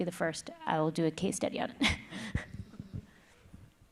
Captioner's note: chuckles